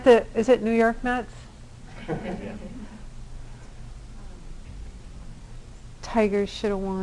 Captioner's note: laughter